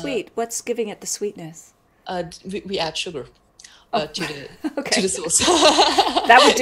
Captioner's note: laughs